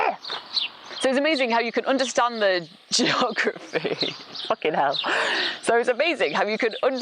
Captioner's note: laughing